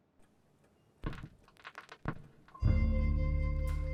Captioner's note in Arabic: صوت طقطقة في الأسطوانة